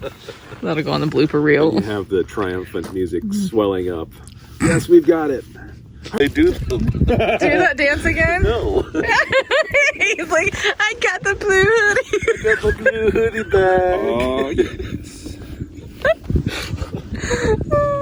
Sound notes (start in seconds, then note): 8.6 laughing; 14.0 laughing